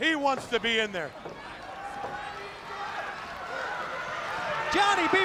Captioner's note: crowd cheering